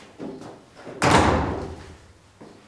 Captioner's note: loud slamming of the door